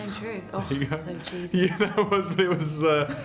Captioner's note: laughter